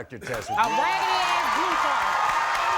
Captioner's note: crowd cheering